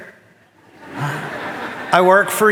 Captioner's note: audience laughing